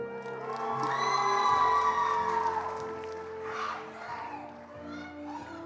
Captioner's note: attendees cheering and applauding